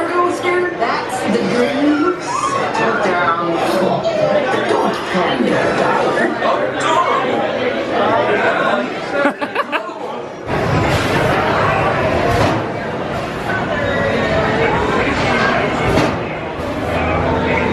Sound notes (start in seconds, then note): 3.0 people chattering; 9.2 laughs; 10.5 coaster rumbling; 11.0 people chattering